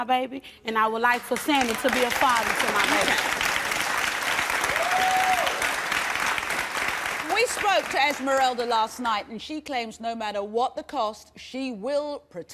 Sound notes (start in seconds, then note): 2.9 applause and shouts